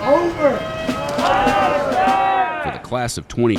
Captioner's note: students cheering